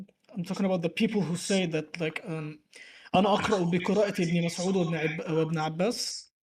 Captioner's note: Arabic